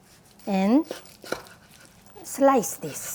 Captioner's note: knife slicing